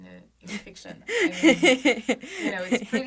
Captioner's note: laughs